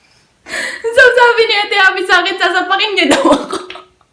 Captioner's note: laughing